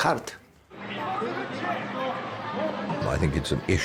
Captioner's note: crowd chattering